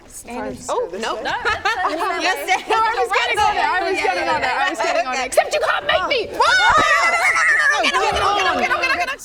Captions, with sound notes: If I just go this way - Oh nope *laughing* No I was getting on it - It's right there I was getting on it Except you can't make me! *screaming* No no no no no Get on, get on, get on get on, get on!